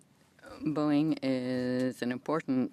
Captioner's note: speaking French